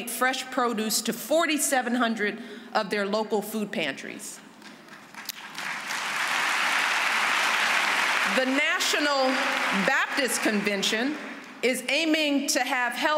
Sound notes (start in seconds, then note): 4.6 applause